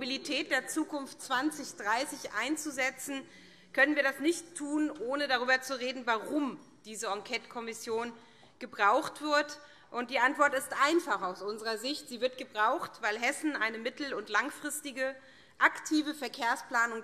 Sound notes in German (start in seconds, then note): none